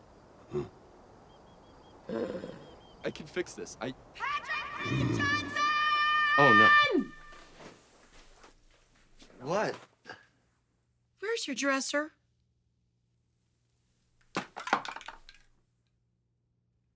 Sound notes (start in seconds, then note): 0.0 groaning; 14.8 click